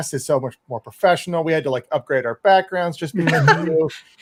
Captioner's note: laughs